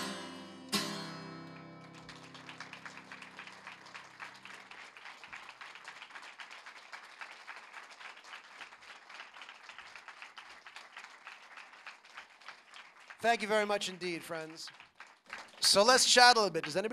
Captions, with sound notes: AND I'M LEARNING -- I'M LEARNING WHAT IT MEANS TO REALLY ROAR. [ APPLAUSE ] THANK YOU VERY MUCH INDEED, FRIENDS. SO LET'S CHAT A LITTLE BIT.